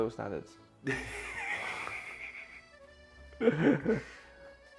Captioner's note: laughter